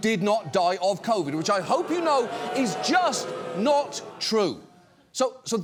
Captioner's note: studio audience booing